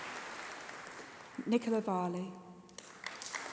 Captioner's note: applause